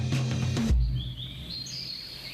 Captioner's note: birds chirping